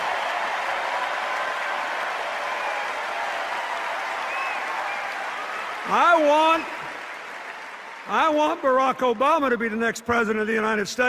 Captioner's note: applause and cheers